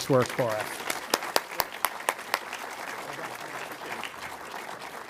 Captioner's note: audience applauding